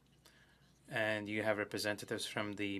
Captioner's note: speaking French